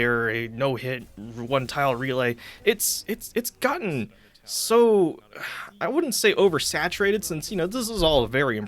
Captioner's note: repeated stammering; sighs